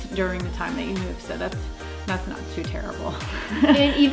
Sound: laughs

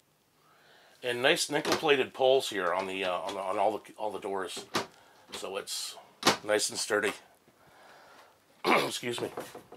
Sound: cough

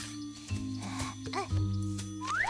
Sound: sighs

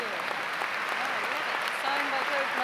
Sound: audience applauds

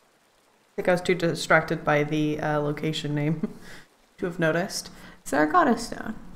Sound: laughs

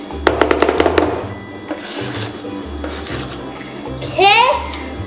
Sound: spatulas chopping

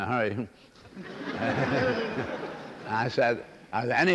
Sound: laughter

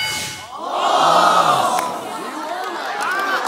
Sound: laughing

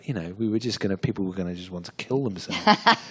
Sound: laughter

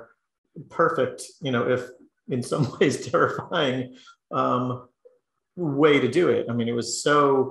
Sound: laugh

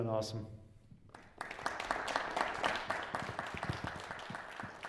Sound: applause

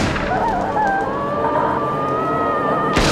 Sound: gun fires; screams; gun fires

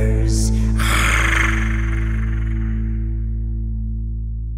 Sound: dinosaur growling

